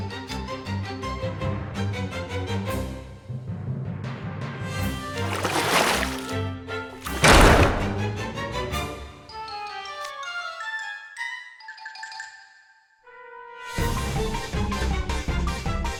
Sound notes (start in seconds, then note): 5.2 splash splash...Thud!!!